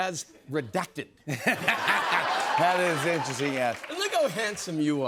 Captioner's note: laughter